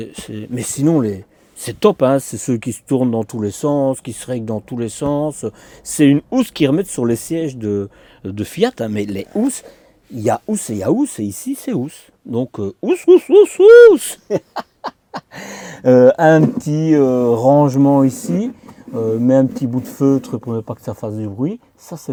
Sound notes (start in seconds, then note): 15.6 laughs